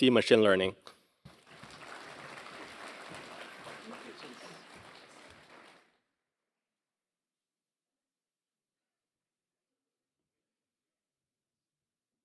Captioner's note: applause